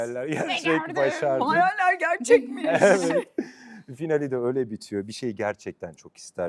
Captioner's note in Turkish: kahkaha